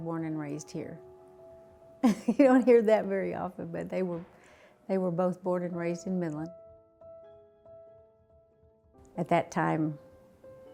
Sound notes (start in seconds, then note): 2.0 laughs; 6.4 background music